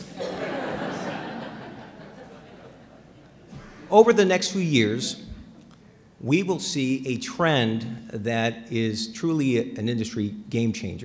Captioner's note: laughter